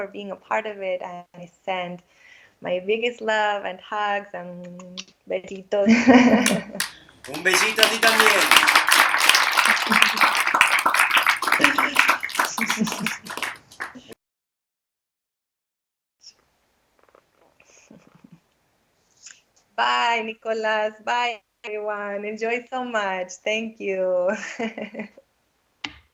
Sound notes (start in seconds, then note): 4.8 kisses; 9.0 klapping